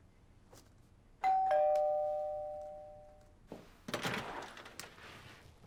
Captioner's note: doorbell ringing